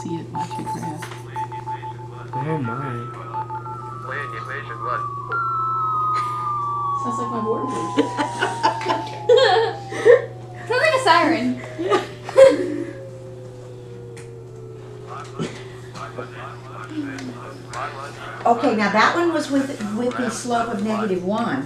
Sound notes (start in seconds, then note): 4.4 calculator Sounds; 7.9 laughter; 12.4 calculator Sounds